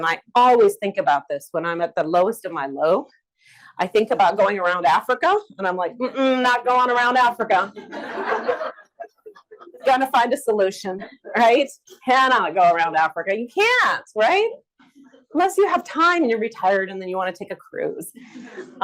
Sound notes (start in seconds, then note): 6.1 humming; 7.7 audience laughs